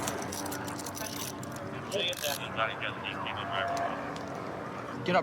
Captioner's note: dispatch chatter